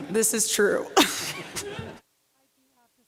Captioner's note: laughter